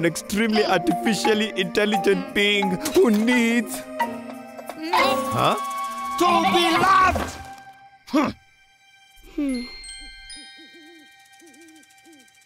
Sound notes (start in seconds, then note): 4.3 soft bleat; 5.7 bleating; 6.2 screaming; 7.4 grunting; 9.4 tinkling